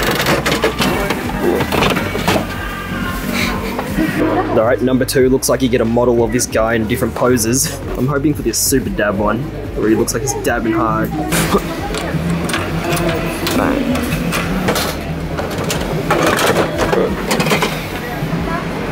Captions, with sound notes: (crank turning) All right, number two looks like you get a model of this guy in different poses. I'm hoping for this super dab one. Where he looks like he's dabbing hard. (coins clinking) (crank turning)